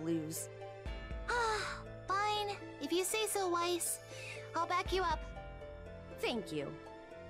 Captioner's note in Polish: wzdech